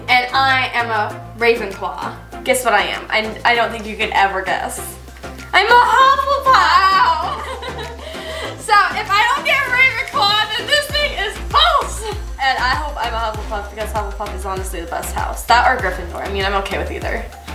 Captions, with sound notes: and I am a Ravenclaw. - Guess what I am. I don't think you could ever guess. I'm a Hufflepuff! - Wow! (giggles) - So if I don't get Ravenclaw, this thing is false! - And I hope I'm a Hufflepuff, because Hufflepuff is honestly the best House. That or Gryffindor, I mean, I'm okay with either.